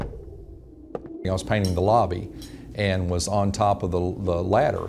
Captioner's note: footsteps